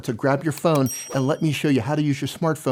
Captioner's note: bell dings